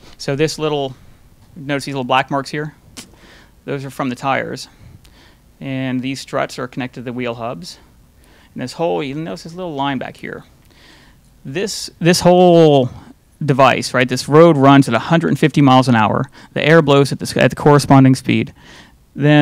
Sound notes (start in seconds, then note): none